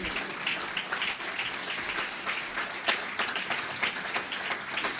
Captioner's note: audience clapping